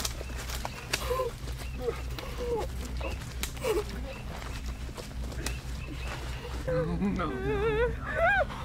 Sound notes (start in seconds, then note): 0.8 heaving/gasping